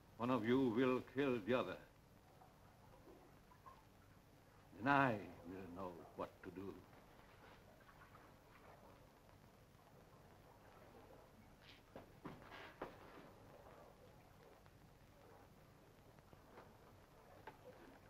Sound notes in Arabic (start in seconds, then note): none